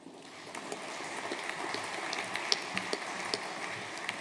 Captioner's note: audience applauding